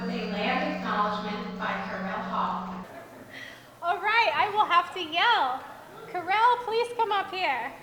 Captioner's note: microphone goes out